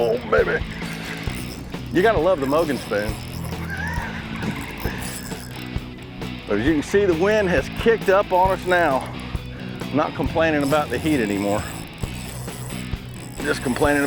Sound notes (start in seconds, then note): 3.4 laugh